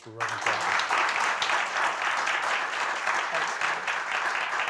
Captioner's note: applause